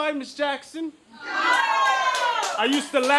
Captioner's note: audience cheers loudly